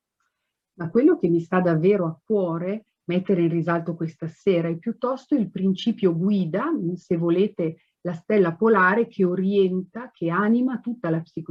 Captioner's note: speaks Italian